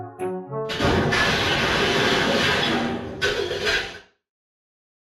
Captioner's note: junk crashing sound